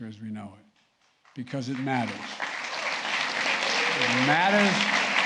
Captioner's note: applause